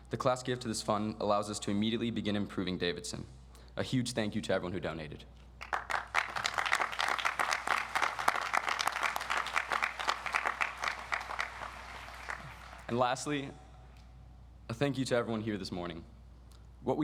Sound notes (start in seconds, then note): 5.6 audience applauds